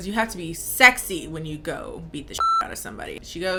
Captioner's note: beep